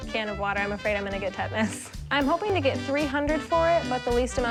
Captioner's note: none